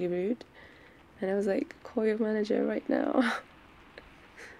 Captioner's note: laughs-in potion seller